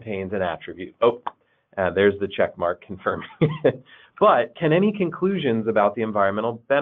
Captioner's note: chuckles